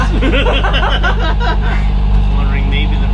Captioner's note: laughter